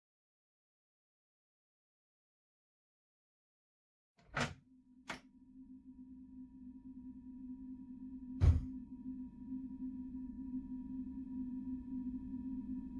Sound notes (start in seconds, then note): 0.3 tense tone; 4.2 door opens; 11.3 tone increases